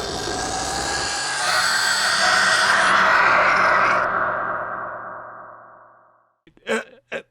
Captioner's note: screaming